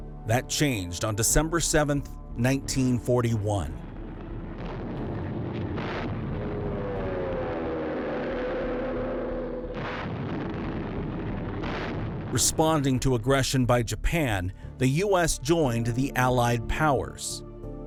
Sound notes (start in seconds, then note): 3.7 sounds of Explosions; 12.1 sounds of Explosions